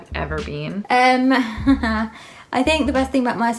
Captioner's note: chuckling